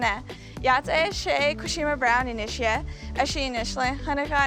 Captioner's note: speaking in Navajo